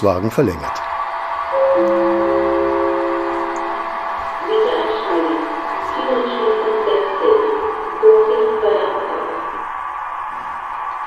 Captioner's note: gong and announcement